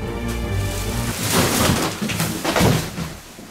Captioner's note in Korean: 풀썩